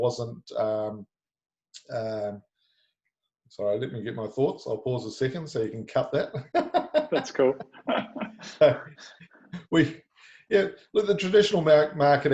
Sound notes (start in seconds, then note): 9.6 chuckling; 10.8 laughing